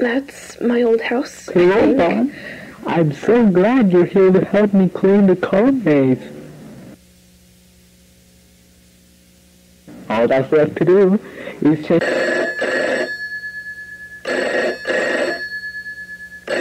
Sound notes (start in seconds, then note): 11.8 phone rings